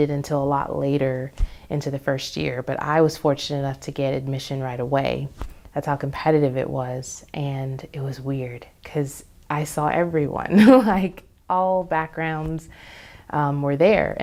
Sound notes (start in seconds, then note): 10.4 laughs